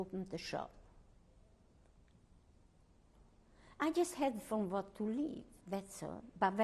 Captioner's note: pauses for 3 seconds